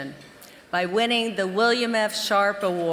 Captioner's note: none